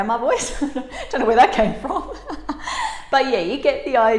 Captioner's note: laughing